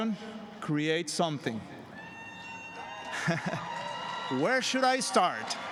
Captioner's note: applause